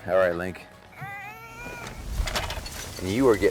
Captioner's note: baby crying